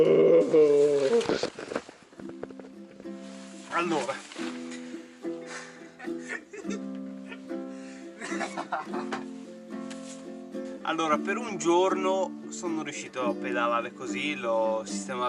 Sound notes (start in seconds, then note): 5.4 evil loughtings